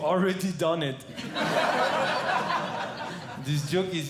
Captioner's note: audience Laughing